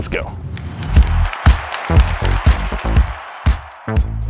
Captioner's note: applause